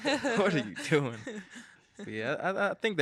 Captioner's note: all laughing